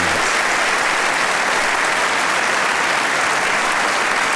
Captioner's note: audience applauding